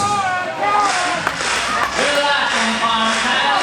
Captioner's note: clapping